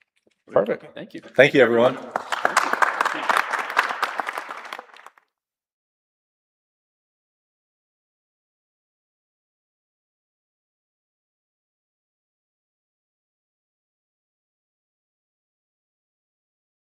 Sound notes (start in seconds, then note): 4.2 applause